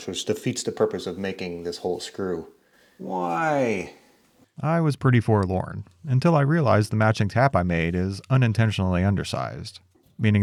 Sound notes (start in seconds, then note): none